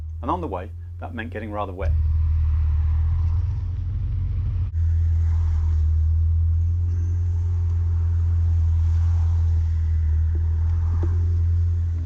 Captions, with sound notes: Aad on the way that meant getting rather wet! [ ENGINE NOISE and other cars passing ]